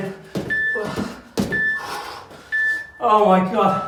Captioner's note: beeping